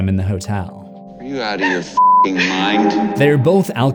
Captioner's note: beep